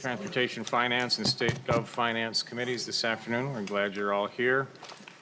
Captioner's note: gavel